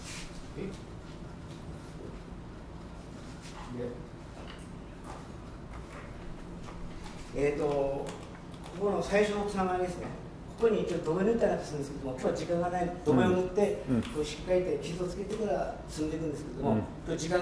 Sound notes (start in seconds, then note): 6.1 foreign Language Spoken